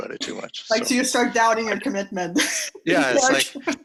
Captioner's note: laughing